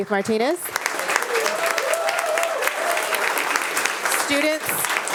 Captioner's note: attendees applauding